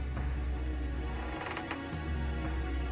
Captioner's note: door creaks quietly